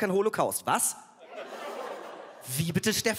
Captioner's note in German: Lachen